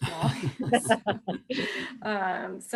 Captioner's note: laughs